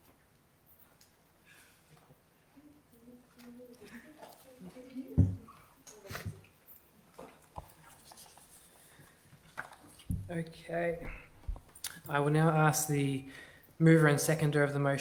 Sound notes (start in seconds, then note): 2.5 members chattering faintly